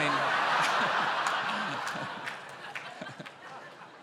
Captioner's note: laughter